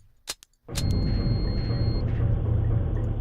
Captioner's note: beep